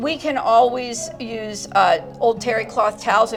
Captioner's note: people chattering distantly